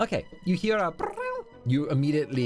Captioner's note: imitates truffle sound